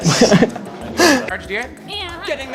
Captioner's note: more gigggle